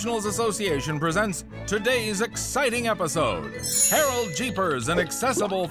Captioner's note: upbeat music; chimes